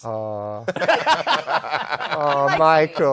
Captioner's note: laughter